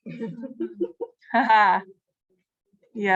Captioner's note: laughter